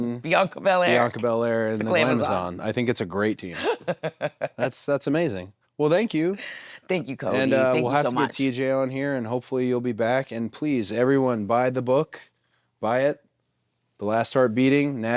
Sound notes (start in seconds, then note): 3.5 Nattie laughs